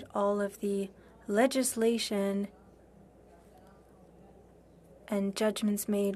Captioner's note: speaking French